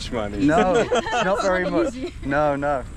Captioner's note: all laugh